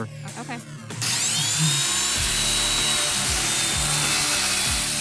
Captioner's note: saw screeching